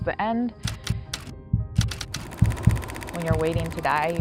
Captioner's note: typewriter clicks, heartbeat